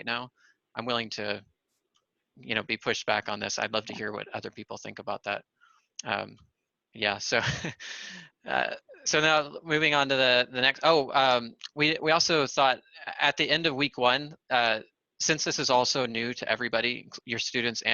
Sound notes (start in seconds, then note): 7.3 laughter